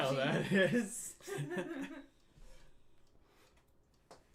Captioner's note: laughing